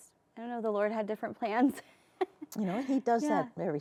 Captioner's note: laughs